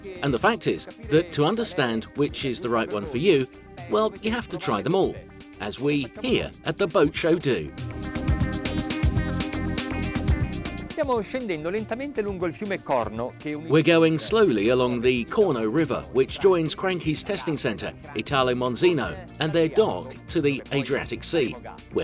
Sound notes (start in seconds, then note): 7.6 electronic music; 11.0 speaking foreign language